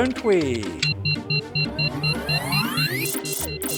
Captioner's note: dramatic music; laboratory machinery beeps